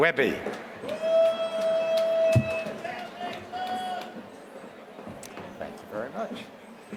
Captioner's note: applause